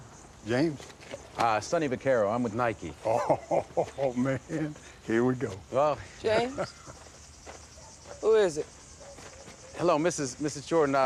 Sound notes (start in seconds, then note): 2.9 laughing